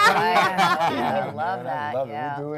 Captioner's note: panel laughs